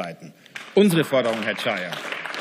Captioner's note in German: Beifall